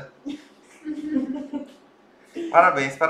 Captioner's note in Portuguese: risos